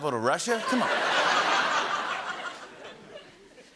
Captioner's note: laughter